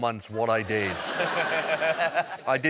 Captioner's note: laughter